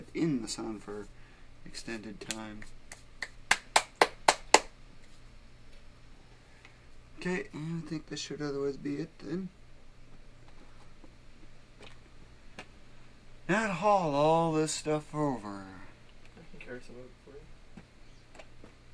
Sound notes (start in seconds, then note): 3.2 clapping